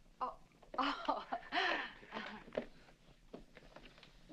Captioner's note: laughing